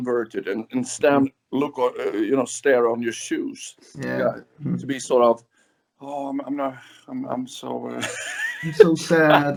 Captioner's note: laughs